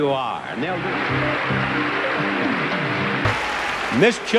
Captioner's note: crowd applauding